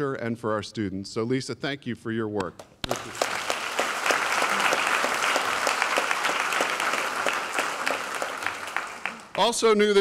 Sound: applause

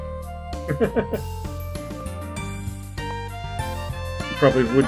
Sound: chuckles

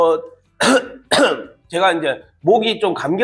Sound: coughing

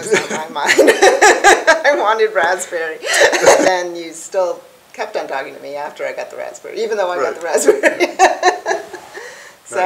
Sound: laughing; laughs

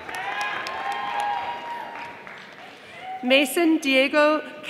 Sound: audience applauding

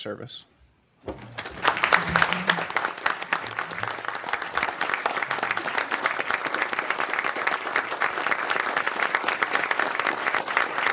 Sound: applause

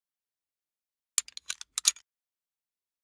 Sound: sound of metal click

